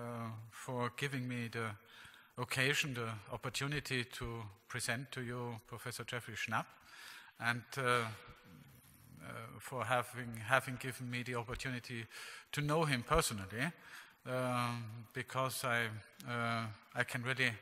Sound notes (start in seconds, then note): none